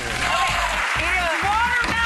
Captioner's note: audience clapping